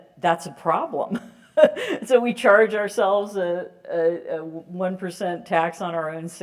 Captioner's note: laugh